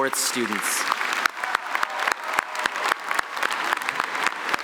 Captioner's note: applause